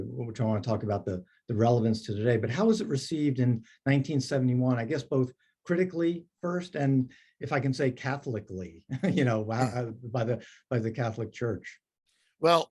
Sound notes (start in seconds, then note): 9.0 laughs